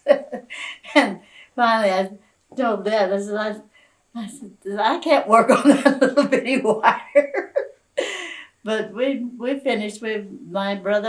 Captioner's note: laughs